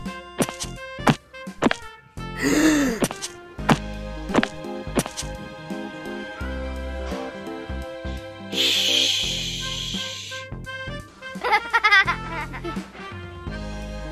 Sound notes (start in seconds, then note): 11.4 laughter